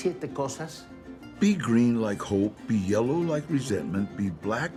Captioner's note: in English